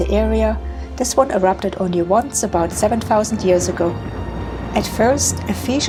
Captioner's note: sound of erupting volcano